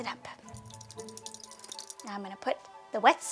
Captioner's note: ingredients sloshing